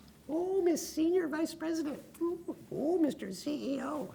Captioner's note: lip sounds